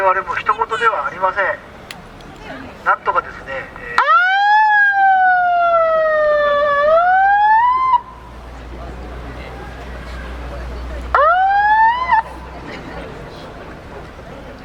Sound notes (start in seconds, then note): 4.6 siren sounds